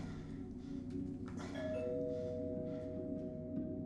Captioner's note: door bell rings